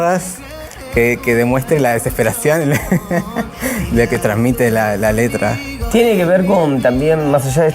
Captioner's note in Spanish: risas